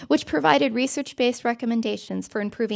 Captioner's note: none